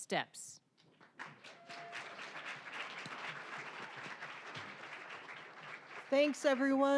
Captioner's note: applause